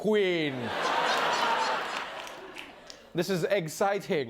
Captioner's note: laughter